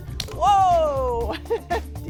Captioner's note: laughs